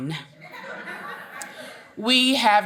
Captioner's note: audience laughing